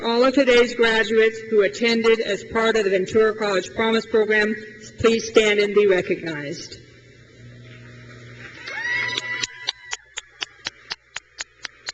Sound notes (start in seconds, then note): 8.4 crowd cheers and claps